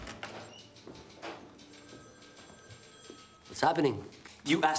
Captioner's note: typewriter keys clacking; telephone ringing